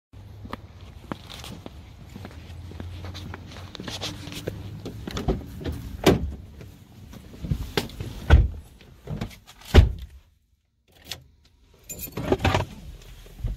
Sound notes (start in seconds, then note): 0.3 footsteps; 5.0 opening and closing car noises